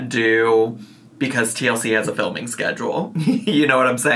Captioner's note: chuckling